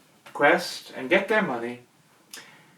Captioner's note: none